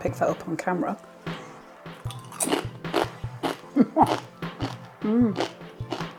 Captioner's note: crunchy chewing